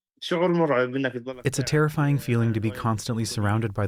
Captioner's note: through translator